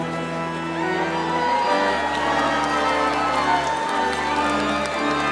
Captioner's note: audience cheering